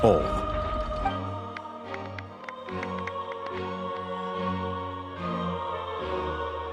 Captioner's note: applause